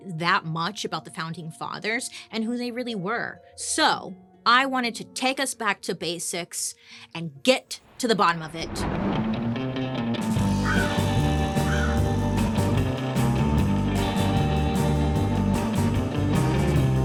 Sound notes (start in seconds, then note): 8.2 thunder rumbling; 9.4 upbeat instrumental music; 10.6 crows cawing